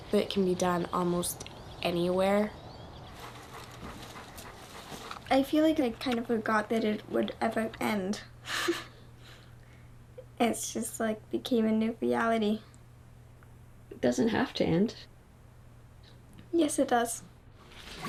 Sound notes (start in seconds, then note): 3.0 dog panting; 8.4 chuckles